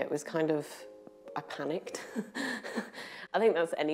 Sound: laugh

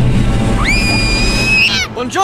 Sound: screams

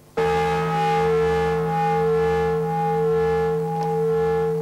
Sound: bell rings

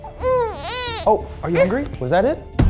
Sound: cries

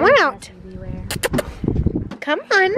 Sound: kissing noise

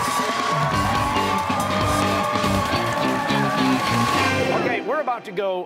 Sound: cheers and applause

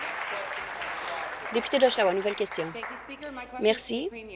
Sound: applause

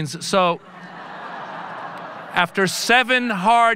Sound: audience laughing

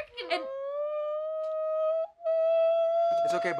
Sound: ABED begins shrieking

